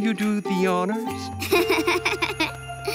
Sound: laughs

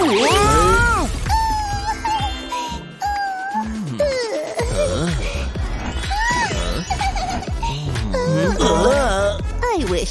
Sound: giggling; snoring

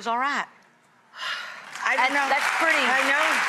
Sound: audience applauding

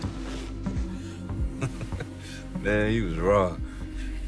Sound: chuckles

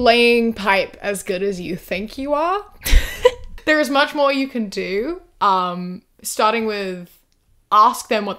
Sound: laughs

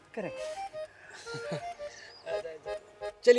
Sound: laughs

